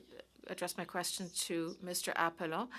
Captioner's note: speaking in French